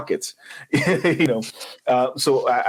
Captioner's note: laughing